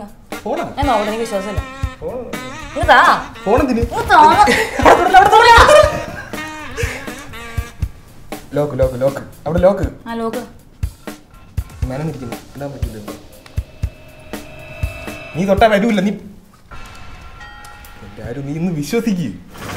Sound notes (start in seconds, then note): 6.1 laughing; 13.2 suspenseful music